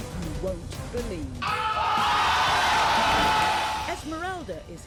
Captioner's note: audience shouting and yelling